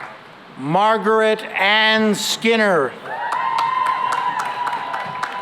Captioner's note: cheering and applause